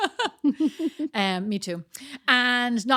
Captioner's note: laughing